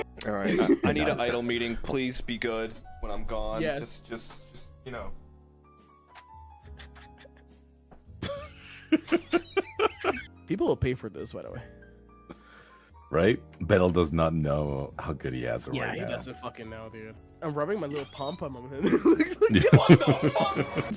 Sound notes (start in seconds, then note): 6.1 giggling; 8.2 laughing